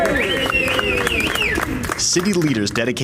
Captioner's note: cheers